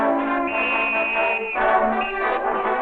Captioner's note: whistle ringing